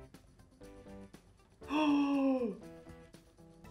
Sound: gasps

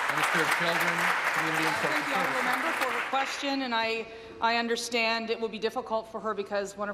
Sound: applause

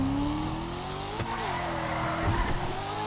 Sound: excellent Drifting Sounds

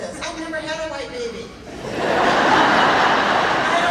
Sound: laughing

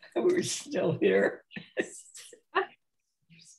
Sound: laughs

